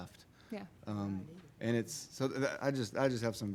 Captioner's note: people chattering